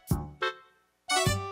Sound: bonk

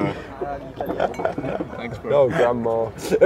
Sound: laughs

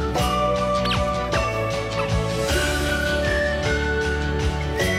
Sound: toy squeaks

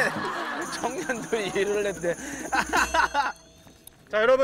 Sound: laughter

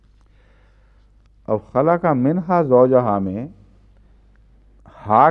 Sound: Arabic

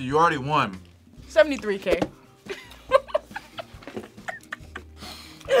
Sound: laughs

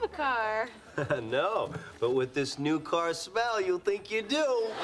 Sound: laughs

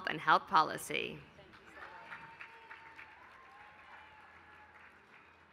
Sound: applause

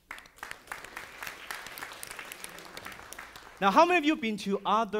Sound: audience applauding

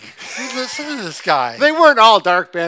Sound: chuckles

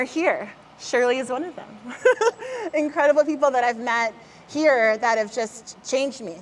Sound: laughs

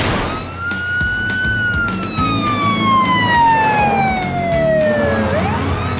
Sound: sirens blaring

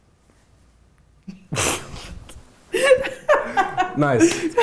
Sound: laughing

